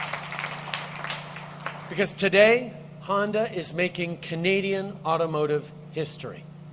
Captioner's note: applause